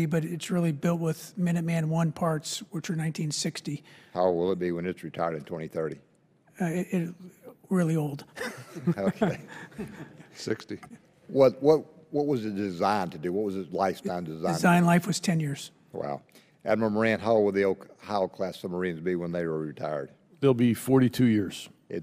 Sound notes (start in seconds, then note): 8.4 chuckles